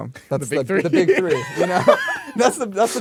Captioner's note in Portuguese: risos